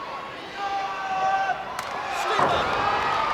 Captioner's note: blows thudding; wrestlers grunting